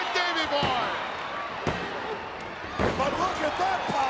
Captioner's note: ref hitting mat